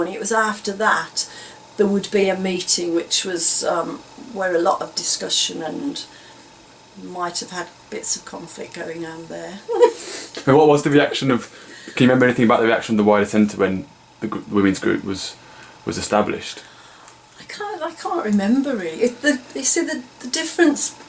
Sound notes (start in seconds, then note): 9.6 laughs